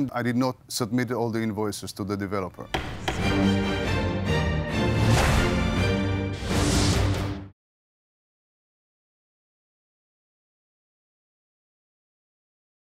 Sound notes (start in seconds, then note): 2.7 gavel knocks; 2.7 dramatic music